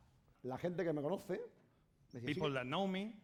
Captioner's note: speaking spanish